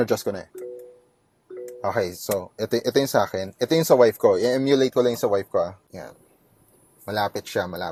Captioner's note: beeps